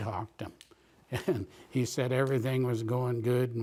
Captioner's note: chuckles